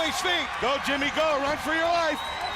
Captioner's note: crowd cheering